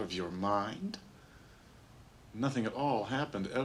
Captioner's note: scoffs